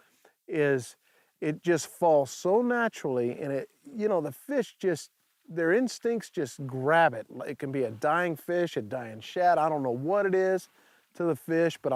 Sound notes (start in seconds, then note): none